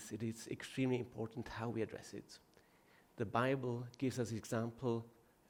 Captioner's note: none